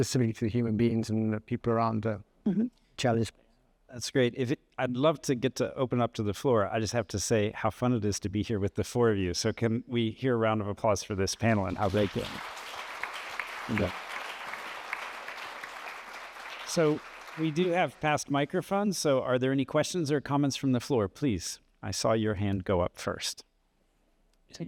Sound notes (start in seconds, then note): 11.4 applause